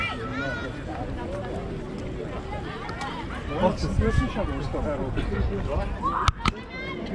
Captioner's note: tourist voices